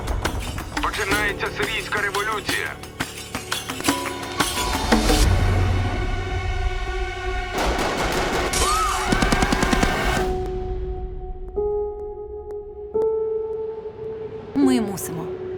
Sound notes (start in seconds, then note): 5.0 tense music playing; 7.6 rapid gunfire; 7.6 gunshots; 8.5 screaming; 10.2 gentle music playing